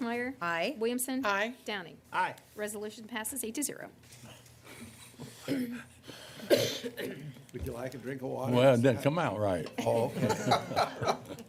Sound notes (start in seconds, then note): 5.6 laughter; 9.8 laughter